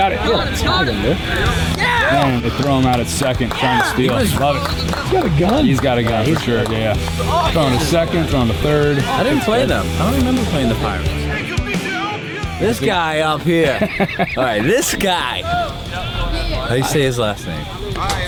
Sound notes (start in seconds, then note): 13.3 laughs